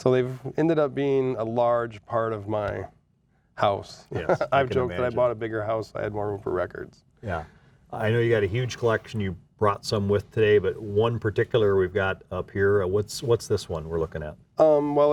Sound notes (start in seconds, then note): 4.1 laughing